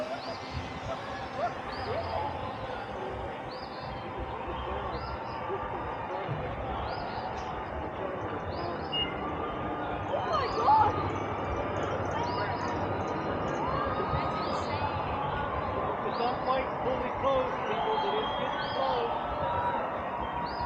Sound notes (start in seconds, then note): 10.1 crowd chatter; 13.7 crowd cheering